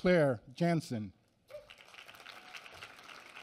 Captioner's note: applause